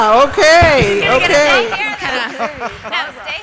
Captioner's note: laughter and applause as audio fades